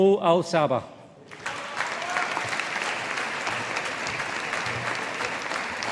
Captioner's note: audience applauding